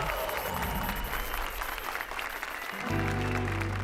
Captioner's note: applause and cheers